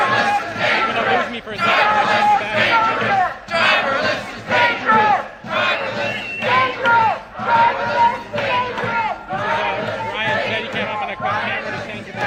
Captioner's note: chanting; shouting